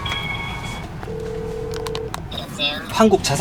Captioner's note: phone ringing